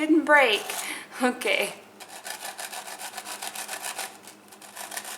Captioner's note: knife sawing